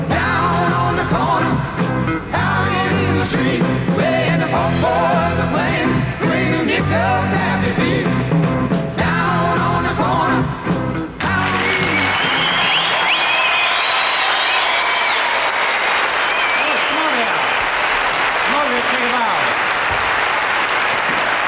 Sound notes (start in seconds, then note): 13.0 audience cheering; 14.2 audience applauding